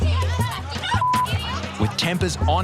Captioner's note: beep